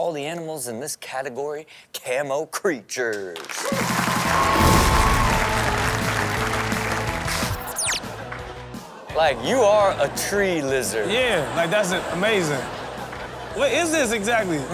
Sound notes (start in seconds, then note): 3.3 crowd applauds and cheer; 4.6 upbeat music